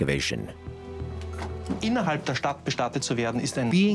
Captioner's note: speaking German